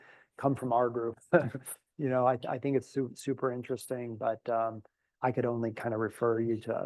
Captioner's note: laugh